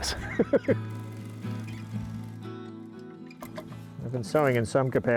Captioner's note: laughing; sewing machine ticking